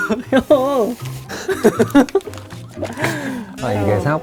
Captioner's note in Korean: 꺄르르